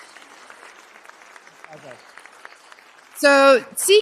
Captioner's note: applause